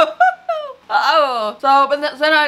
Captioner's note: laughs